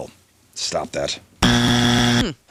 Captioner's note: buzzer